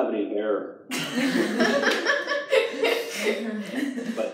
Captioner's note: laughter